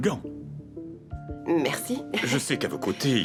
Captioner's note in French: rires